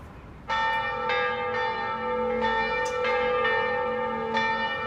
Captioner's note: bells clanging